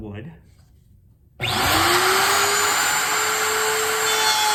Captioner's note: router whirring